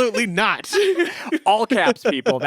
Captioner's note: all laughing